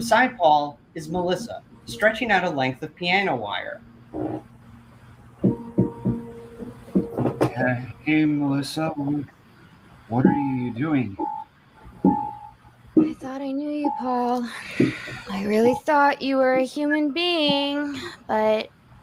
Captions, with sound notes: Beside Paul is Melissa, stretching out a length of piano wire. - Ha... hey, Melissa, wh... What’re you doing? - I thought I knew you, Paul. (sighs) I really thought you were a human being, but...